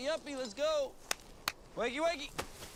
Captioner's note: hands clapping